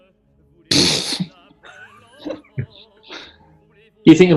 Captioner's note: spluttering laugh